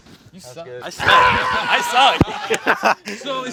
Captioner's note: shouts